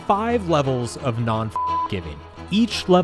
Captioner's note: beep